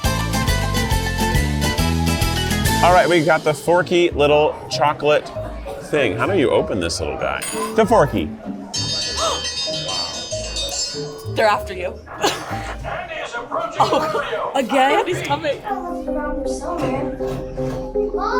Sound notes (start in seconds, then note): 8.7 dinner bell rings; 16.5 tense music